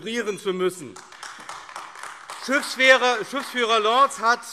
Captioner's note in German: Beifall AfD